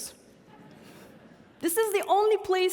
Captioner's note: audience laughing